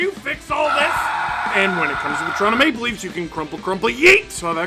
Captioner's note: screaming